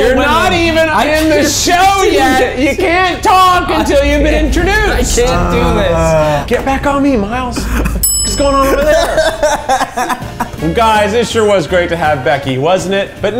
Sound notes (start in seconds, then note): 8.0 ding sound